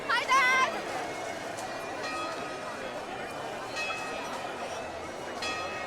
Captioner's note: chatter